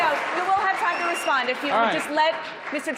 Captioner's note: cheering